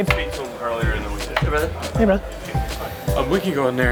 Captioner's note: voiceover